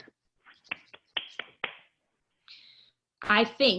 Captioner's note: clapping